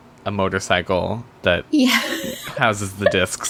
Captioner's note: laughs